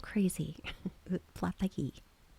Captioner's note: laughs